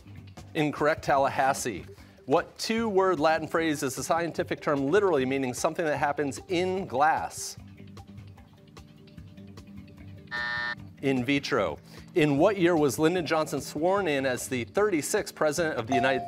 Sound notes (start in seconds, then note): 10.3 buzzer